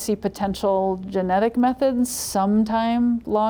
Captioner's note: none